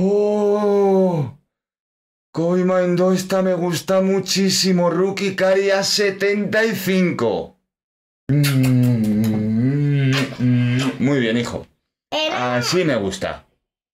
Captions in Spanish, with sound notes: Kobie Mainoo esta me gusta muchísimo Rookie Card y a 75 (besos) muy bien hijo así me gusta